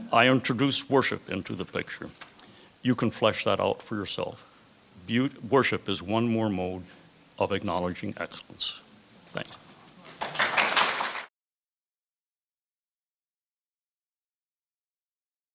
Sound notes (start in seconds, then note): 10.0 applause